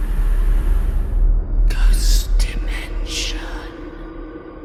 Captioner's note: ghostly Voice